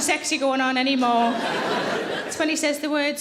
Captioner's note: audience laughing